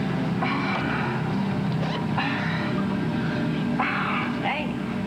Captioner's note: Gémissements